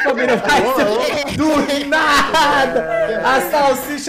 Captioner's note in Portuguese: risos